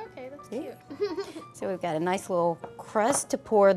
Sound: laughs

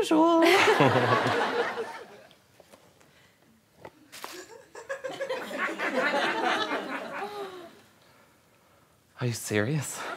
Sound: laughter

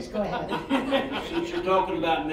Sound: all laughing

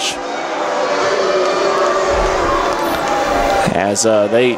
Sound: crowd boos

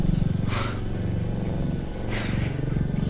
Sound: scoffing Laugh

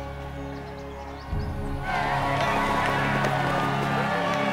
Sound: crowd cheers

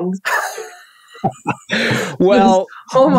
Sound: both laughing

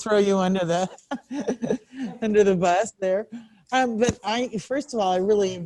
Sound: laughs

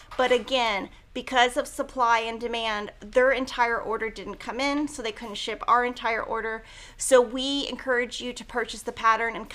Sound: none

